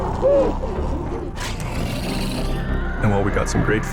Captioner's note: snarling and screaming